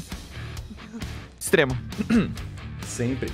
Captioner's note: ahem